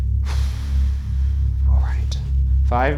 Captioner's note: sighs